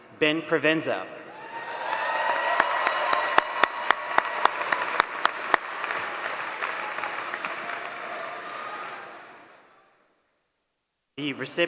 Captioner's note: applause